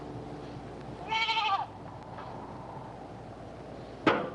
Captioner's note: goats bleating